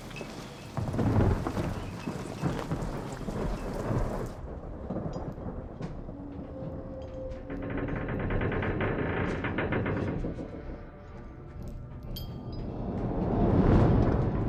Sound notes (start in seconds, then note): 0.0 rain pattering; 0.0 wind whistling; 0.0 thunder rumbling; 4.9 ship creaking; 5.2 eerie music